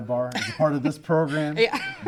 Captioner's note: laugh